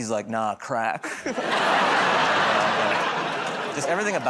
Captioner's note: laughter